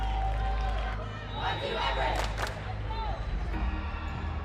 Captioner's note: team cheering